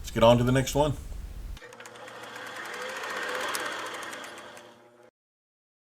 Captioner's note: film reel spinning